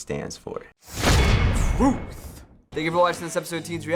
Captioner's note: clang!; voice-over